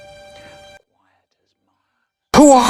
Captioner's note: quietly